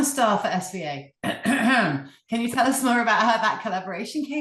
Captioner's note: clears throat